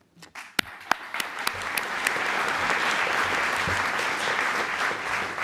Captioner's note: applause